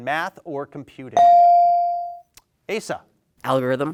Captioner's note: bell dings